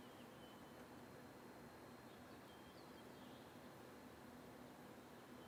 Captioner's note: birds chirping